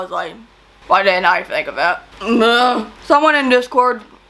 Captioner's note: grunts in frustration